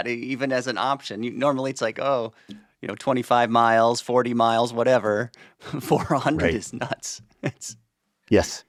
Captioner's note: chuckles